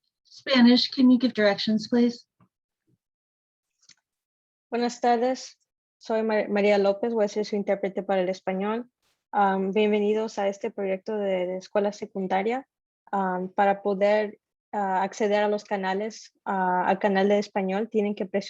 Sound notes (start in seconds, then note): 5.0 speaking Spanish